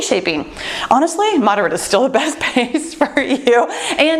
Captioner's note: laughs